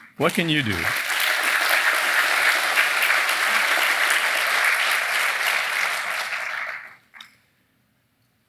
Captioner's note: applause